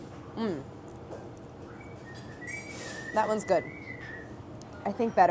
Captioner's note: whistling